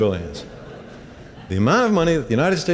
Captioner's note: laughter